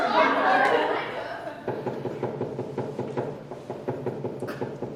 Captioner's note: knocking